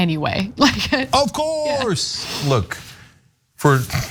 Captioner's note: laugh